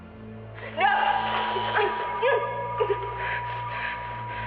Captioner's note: zap